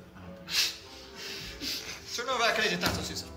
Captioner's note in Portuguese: risos